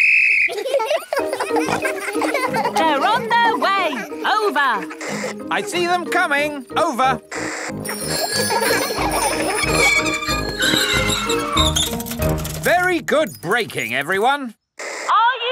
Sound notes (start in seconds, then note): 0.0 blows whistle; 0.5 giggling; 7.8 giggling and ringing bells; 9.5 tires screech